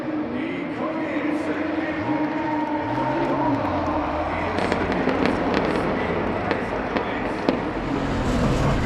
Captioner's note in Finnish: urheilijoiden huudot; moottorin surinaa